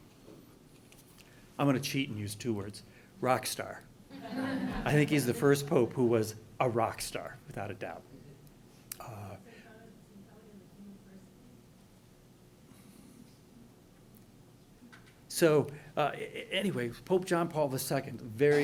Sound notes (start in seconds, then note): 4.1 laughing